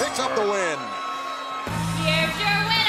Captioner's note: crowd cheering